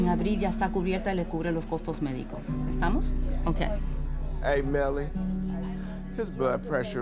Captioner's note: woman speaking Spanish